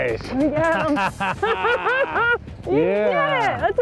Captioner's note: laughs